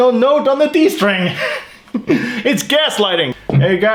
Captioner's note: laughs